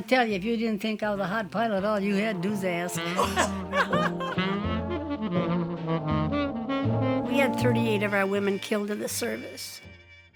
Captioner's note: laughs